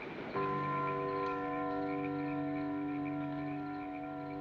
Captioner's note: church bells tolling